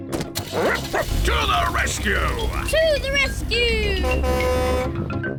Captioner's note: barks; horn blares